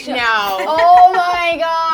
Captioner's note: laughing